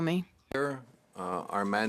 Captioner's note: speaking French